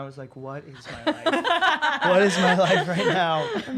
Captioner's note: women laugh